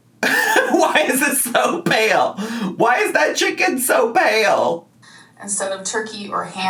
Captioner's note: laughs